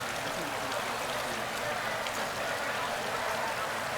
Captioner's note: water flowing